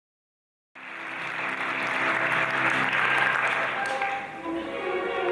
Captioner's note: audience applauding; orchestral music